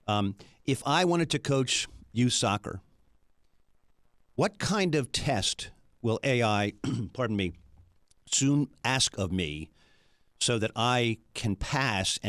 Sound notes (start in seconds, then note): 6.8 clears throat